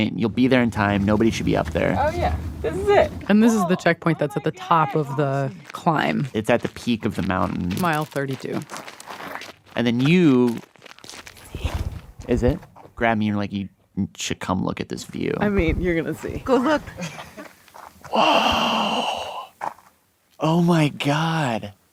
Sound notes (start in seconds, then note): 11.2 whispers